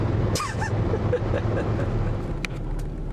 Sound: snickers

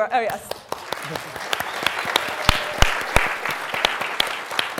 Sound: applause

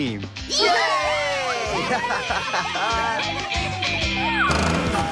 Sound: cheers & Laughter

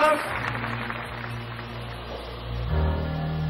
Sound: audience applause; menacing music

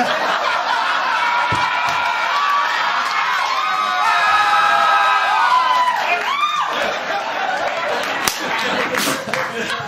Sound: laughter, howls and screams; nervous laughter

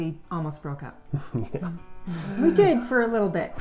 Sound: laughs

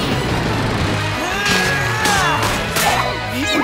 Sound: grunting

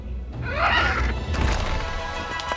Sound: Stormfly squawks

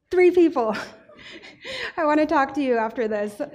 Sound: laughing

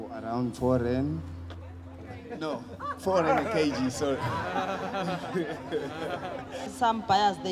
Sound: laughter

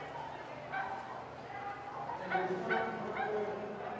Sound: dogs barking

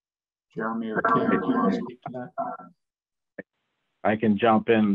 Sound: radio interference drowns out speaker

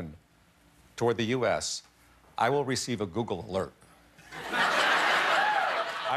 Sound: laughter

